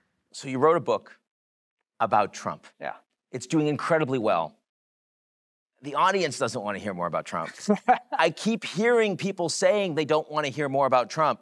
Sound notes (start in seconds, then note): 7.4 laughs